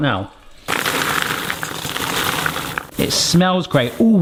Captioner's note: popcorn pouring